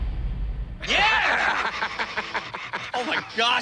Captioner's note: laughs